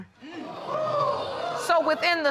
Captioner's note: audience exclaiming